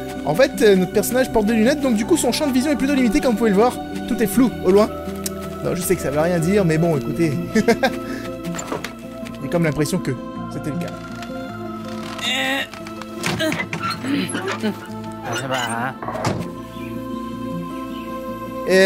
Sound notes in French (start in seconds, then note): 7.6 Rires